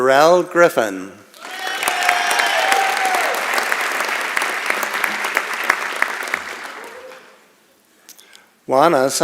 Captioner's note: applause